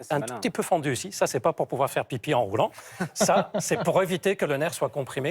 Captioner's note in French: rires